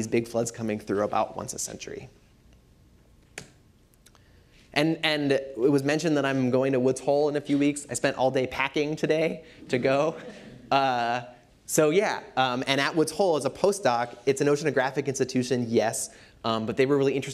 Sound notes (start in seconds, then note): 10.0 laughter